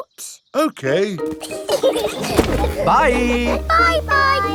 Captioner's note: laughing